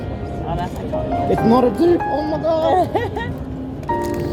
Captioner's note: laughs